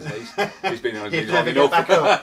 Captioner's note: laughing